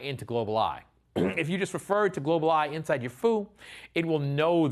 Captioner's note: cough